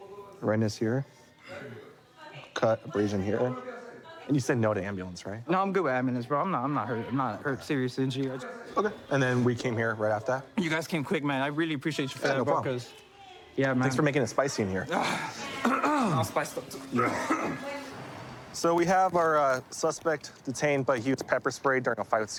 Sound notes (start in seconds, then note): 15.5 clears throat; 16.7 coughs